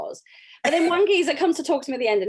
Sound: laughs

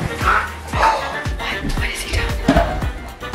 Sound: footsteps; gasps

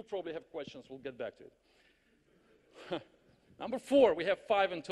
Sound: audience laughs

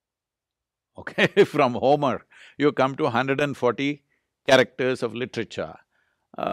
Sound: laughs

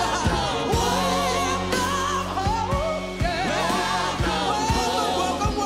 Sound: leader vocalizing

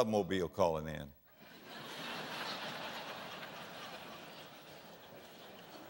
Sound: audience laughter

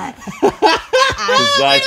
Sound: laughing

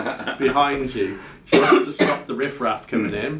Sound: laughing

